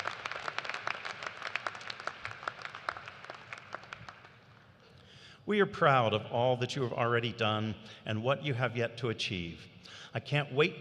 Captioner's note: cheers and applause